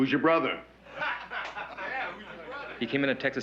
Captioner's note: laughter